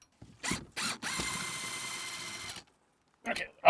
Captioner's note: drill whirring